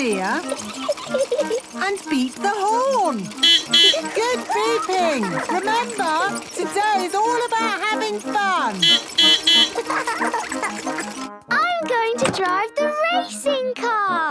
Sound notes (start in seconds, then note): 0.0 giggling; 3.0 beeping; 8.4 beeping; 8.4 laughing